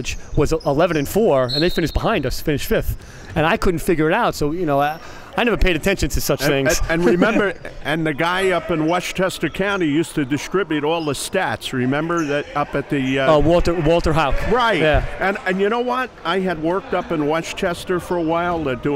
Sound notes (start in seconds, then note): 6.4 laughing